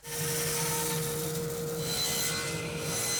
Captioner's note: sawing